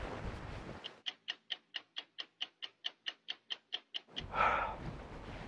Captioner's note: clock ticking; sigh